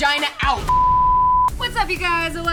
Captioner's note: beep